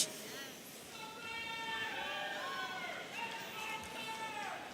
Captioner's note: audience cheering